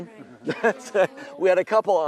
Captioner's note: laughs